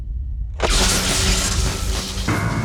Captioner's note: electrical surge; electronic ambient music